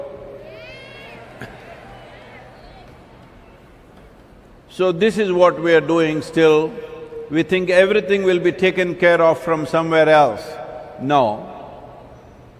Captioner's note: laughs